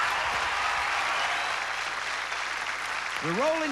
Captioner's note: screams; cheers and applause